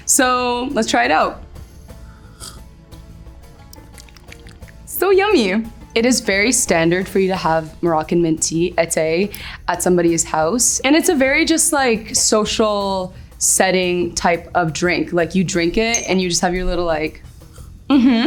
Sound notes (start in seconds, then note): 2.0 sips; 3.7 lips smacking